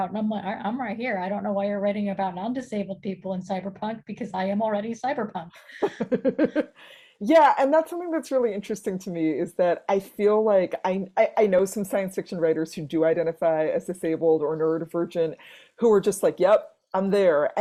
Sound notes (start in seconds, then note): 5.6 laughing